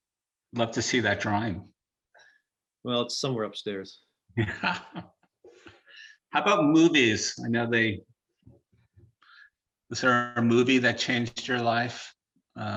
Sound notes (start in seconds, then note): 4.4 laughing